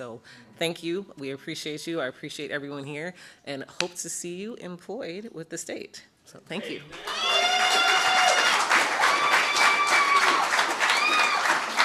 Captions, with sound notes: So thank you. We appreciate you. I appreciate everyone here. And hope to see you employed with the state. So thank you. [APPLAUSE]